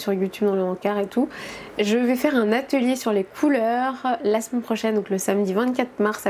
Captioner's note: in french